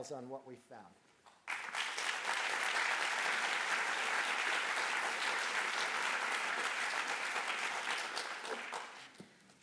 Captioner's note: applause